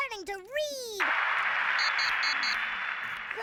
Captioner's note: makes sound of applause